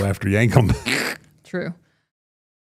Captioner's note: laughs